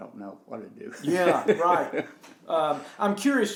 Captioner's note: laughs